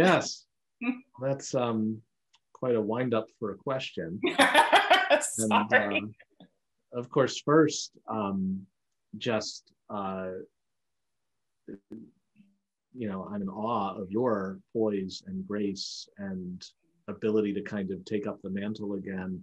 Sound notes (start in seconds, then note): 4.2 laughing